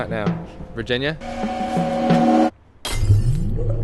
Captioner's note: time stop noise